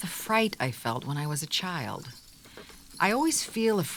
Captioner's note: wagon creaks